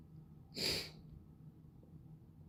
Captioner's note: sniffle